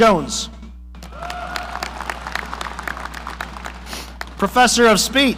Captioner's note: audience applauding